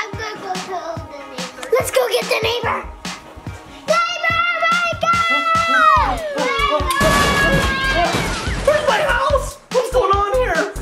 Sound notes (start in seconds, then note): 3.4 yelling; 6.8 sound of tent falling over